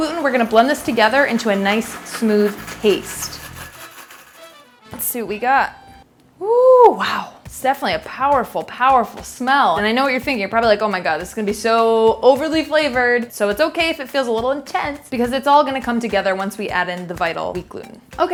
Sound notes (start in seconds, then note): 3.6 blender running